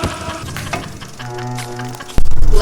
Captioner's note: scream